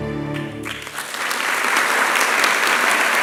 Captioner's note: applause